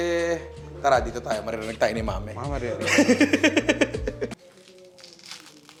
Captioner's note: laughs